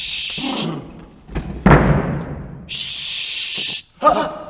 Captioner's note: banging